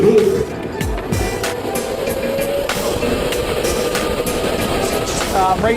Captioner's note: go-kart engines whirring